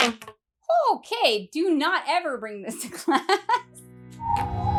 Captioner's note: laughing